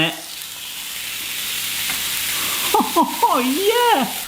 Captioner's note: steak sizzling